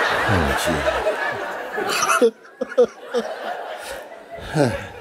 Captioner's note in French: rires